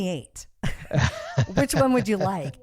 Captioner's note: both laugh